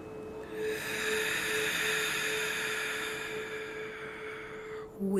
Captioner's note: deep breathing